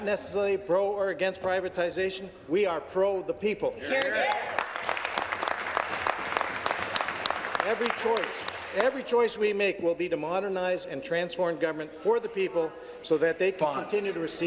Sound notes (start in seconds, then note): 7.2 applause